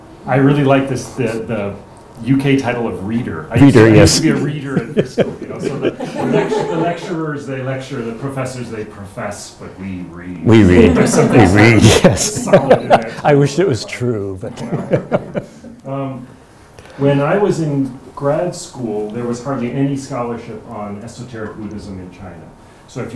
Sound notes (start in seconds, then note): 6.2 audience laughs; 10.4 laughs; 16.6 laughs